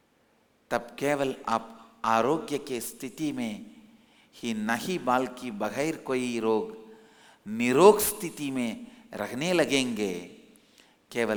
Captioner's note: hindi